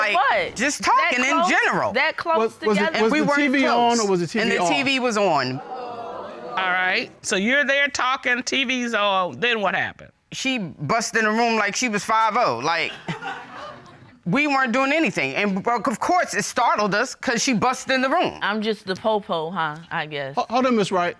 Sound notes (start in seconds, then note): 4.3 audience exclaims; 12.7 audience laughs